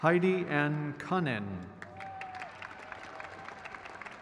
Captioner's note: crowd cheers